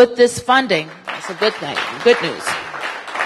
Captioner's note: applause